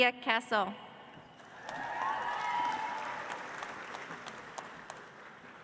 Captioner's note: audience applauds